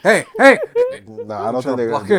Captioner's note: laughter